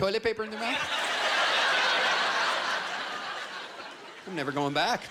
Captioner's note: laughter